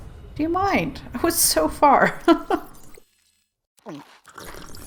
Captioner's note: laughs